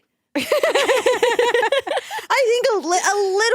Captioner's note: both laughing